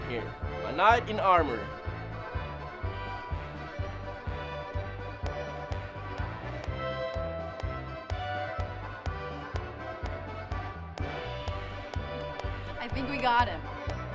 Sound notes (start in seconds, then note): 2.7 lilting upbeat music; 5.4 Mae clapping; 10.9 Jack clapping